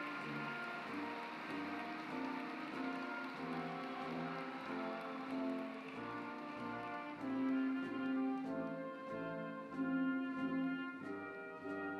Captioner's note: applause